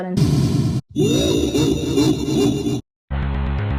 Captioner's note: Giga Queen laugh